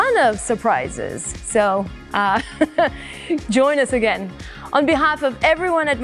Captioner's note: chuckles